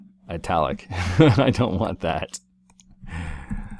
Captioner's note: laugh